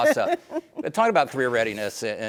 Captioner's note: laughing